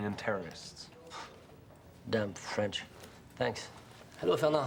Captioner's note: scoffs